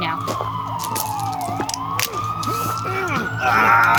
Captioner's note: sirens